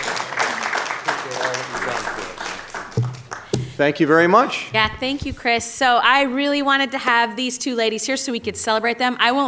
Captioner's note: applause